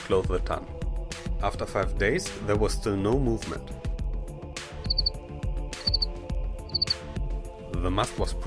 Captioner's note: chirp